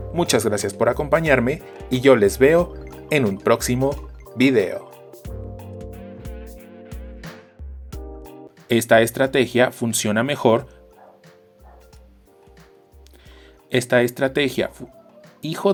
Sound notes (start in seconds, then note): 10.9 dog barks; 14.8 dogbarks and howls